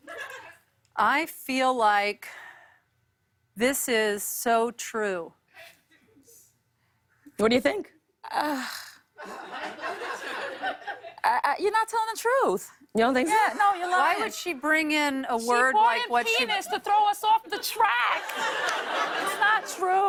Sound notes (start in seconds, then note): 8.2 sighs; 9.2 laughter; 17.4 laughter